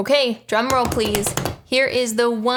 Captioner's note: hands tapping